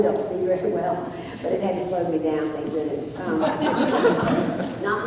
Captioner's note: laughter